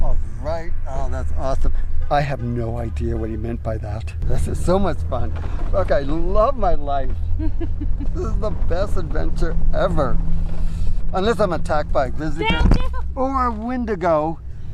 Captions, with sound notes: - Alright, oh that's awesome. I have no idea what he meant by that. This is so much fun. Okay, love my life. [laughing] This is the best adventure ever. Unless I'm attacked by a grizzly bear. - Down, down. - Or a Windigo.